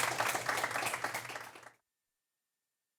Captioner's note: applause